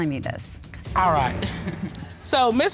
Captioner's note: chuckles